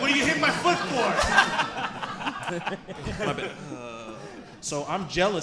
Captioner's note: audience and hosts laughing